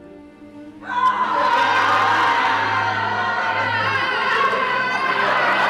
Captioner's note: cheering